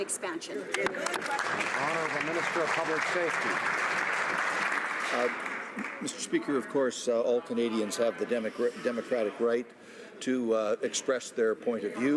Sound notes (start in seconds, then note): 4.5 some Applause